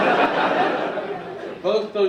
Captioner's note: audience laughing